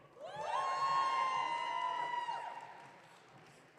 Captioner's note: audience cheering